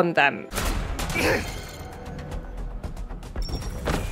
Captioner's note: gun shot; enemy death grunt